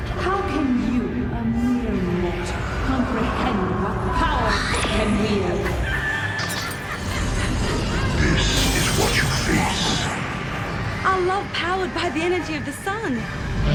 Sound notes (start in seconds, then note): 5.6 mad triumphant laughter; 9.8 reality-shattering kaboom